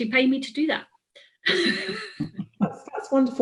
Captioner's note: laughs